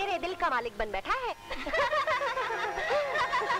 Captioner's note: All laughs